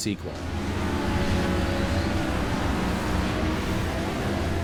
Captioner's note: jet ski engines roaring